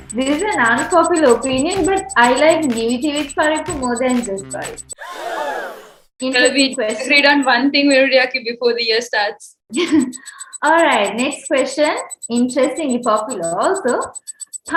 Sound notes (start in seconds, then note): 5.0 audience gasp; 9.7 laughs